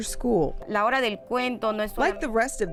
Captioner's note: speaks Spanish